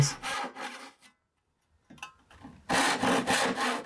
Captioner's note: saw scrapes